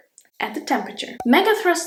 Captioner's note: bubble pops